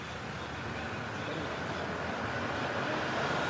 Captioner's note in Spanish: en voz baja